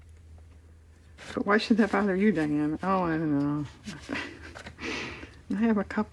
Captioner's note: laughs